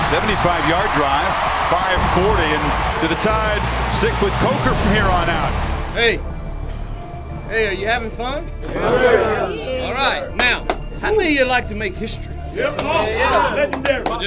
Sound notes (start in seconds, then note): 6.1 voiceover; 8.6 team cheers; 12.6 team cheers